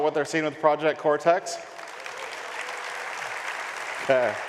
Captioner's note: audience applauds and cheers